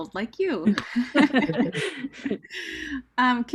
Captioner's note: laughing together